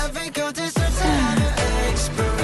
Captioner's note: gasp